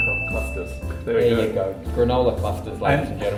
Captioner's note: ding!